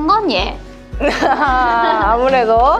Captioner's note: laughter